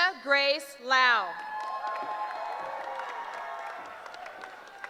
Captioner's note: cheering